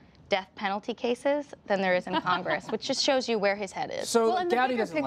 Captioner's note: laughter